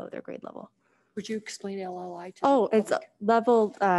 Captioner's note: faintly speaking